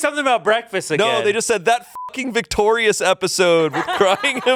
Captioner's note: beep